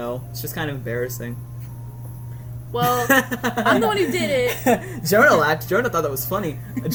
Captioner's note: laughs